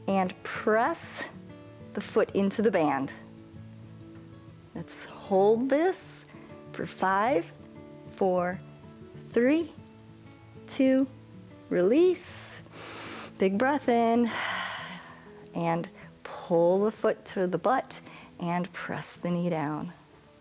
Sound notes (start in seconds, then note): 12.6 exhales; 12.6 inhales